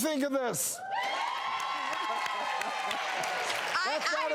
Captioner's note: women cheering